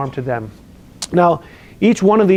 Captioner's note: lip smacks